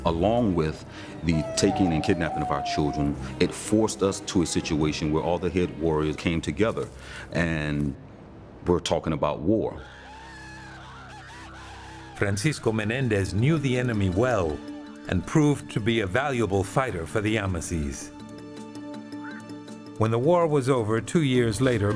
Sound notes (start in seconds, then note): 10.0 all shouting; 19.1 bird squawks